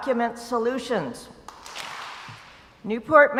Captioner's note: crowd applauds